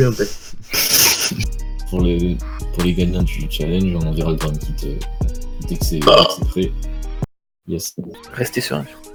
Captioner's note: burp